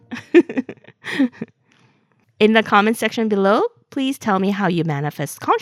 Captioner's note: haha